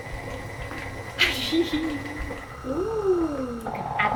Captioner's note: mixer whirring; laughter